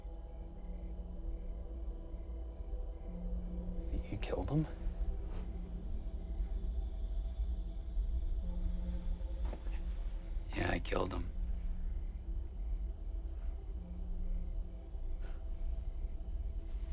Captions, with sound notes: (tense music) (crickets chirping) You killed him? (tense music) (crickets chirping) - Yeah I killed him. (tense music) (crickets chirping)